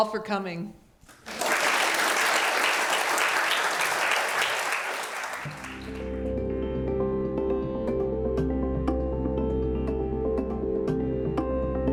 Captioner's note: applause